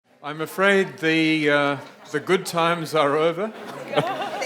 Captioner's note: chuckles